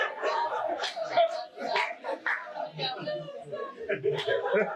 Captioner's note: audience laughing